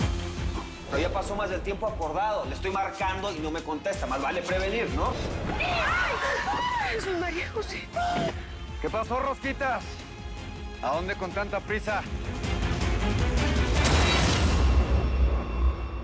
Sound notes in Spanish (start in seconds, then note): 5.5 Gritos; 8.0 Grito contenido